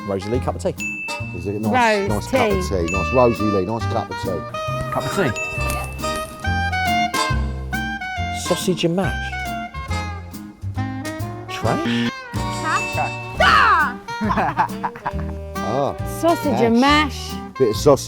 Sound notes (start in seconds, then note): 13.4 both laughing